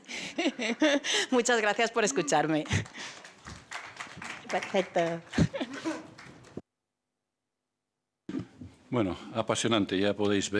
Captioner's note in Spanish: Aplausos